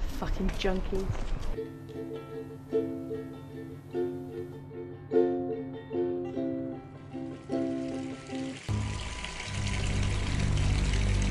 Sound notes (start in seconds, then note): 9.0 bath Running